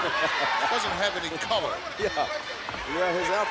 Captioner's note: laughs